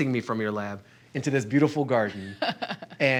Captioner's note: laughs